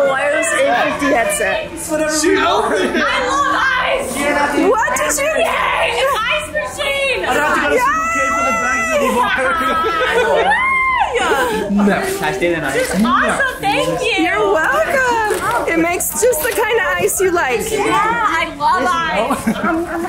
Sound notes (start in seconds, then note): 2.2 group chuckles and chatters; 7.2 group chatters loudly; 10.1 laughs; 19.2 laughs